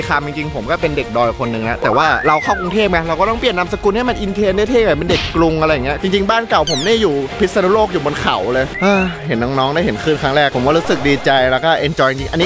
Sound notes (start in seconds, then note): 9.0 sighs